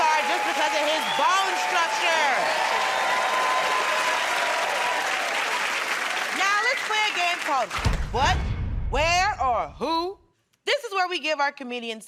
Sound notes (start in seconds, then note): 3.9 cheers and applause